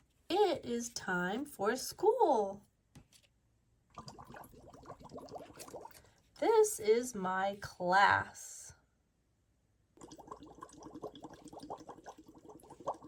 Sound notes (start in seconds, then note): 3.9 water bubbles; 10.0 water bubbles